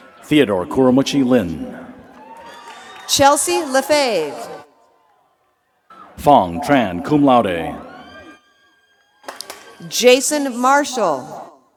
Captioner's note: cheers and applause